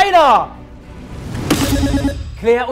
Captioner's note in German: Buzzer